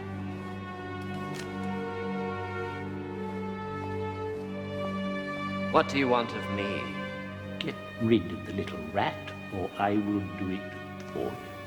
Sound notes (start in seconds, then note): none